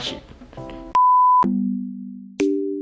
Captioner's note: beep